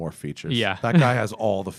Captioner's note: laughter